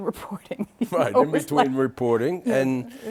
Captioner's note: laughter